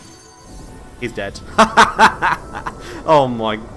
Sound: laughs

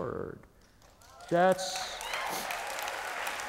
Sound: applause

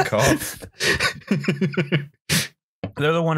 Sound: laughter

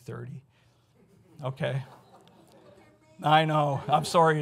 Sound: audience laughs

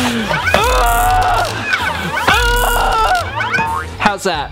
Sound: yelling

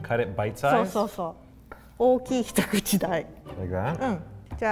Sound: speaks in foreign language

